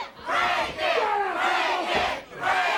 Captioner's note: crowd chatter